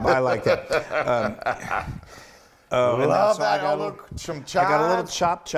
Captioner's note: laugh